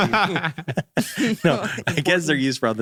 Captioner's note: laughing